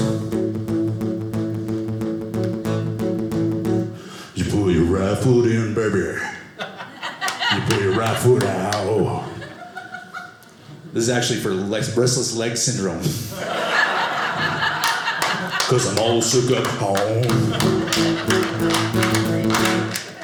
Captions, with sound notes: (guitar playing) You put your right foot in, baby. You put your right foot out. This is actually for restless legs syndrome. (audience laughing) Because I'm all shook up. Oh. (audience laughing) (guitar playing)